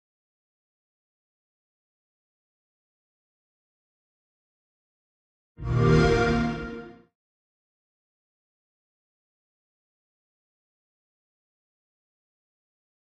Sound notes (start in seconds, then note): 5.6 sonido de xbox